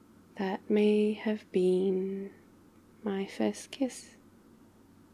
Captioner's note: quietly